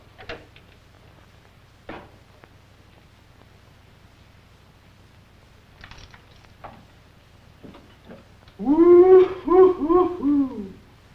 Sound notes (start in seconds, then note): none